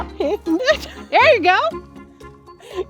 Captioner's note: laughs